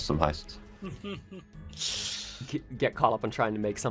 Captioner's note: chuckle intensifies